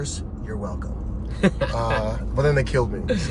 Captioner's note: laughs